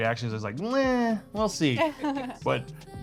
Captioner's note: laughing